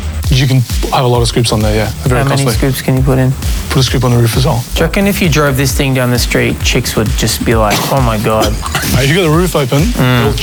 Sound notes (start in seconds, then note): 7.4 laughing